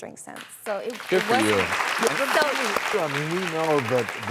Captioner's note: audience applauds